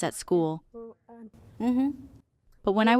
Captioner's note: affirmative sounds